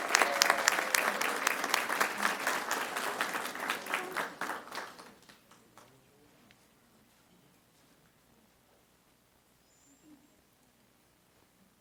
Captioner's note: applause